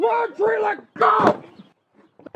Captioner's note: thud